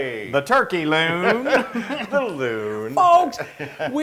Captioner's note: laugh